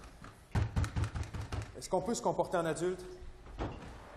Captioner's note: banging